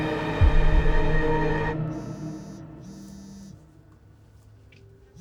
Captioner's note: phone buzzes